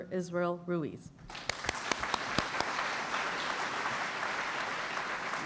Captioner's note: applause